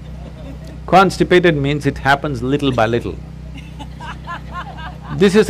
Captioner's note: few laugh; laughter; 笑聲